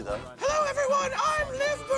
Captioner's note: high pitched voice